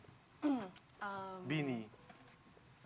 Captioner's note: clears throat